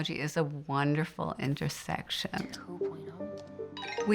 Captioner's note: computer dings